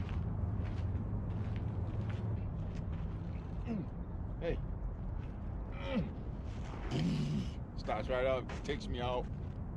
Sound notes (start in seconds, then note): 6.6 make engine noises; 6.9 grunting